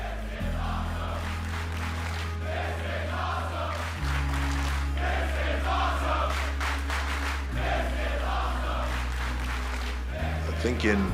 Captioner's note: fans chanting